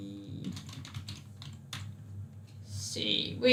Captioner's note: keyboard clicks